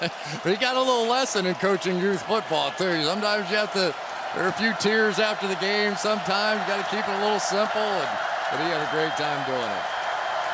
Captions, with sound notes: Come on. [laughs] He got a little lesson in coaching youth football too. Sometimes you have to-- there are a few tears after the game. Sometimes you got to keep it a little simple, and-- but he had a great time doing it.